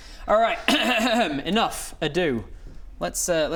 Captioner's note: ahem